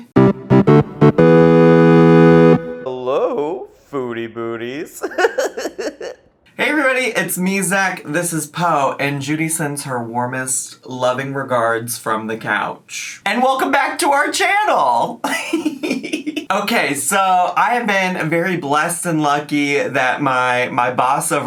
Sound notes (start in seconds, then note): 0.0 bright music; 4.8 laughs; 15.2 laughs